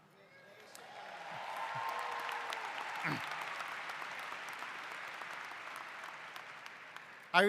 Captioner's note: applause